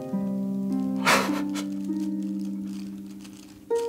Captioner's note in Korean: 철민의 힘없는 웃음